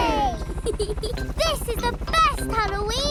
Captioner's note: peppa giggles